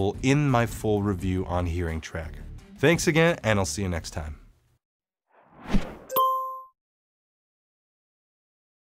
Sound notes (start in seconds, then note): 5.3 logo whooshes; 6.1 dot dings